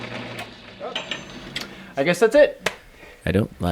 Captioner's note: clink